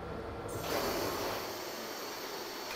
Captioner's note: hissing